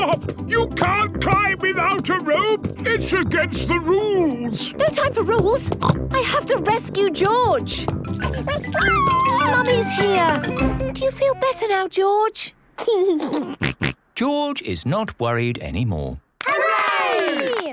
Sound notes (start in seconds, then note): 6.8 snorts; 8.2 George crying; 13.8 giggles